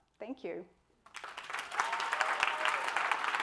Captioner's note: applause